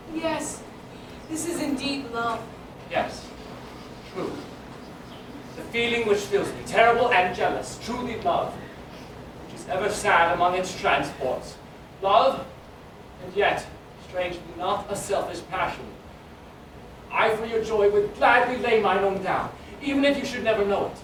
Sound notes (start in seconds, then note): none